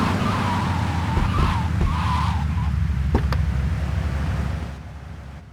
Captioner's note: tires screeching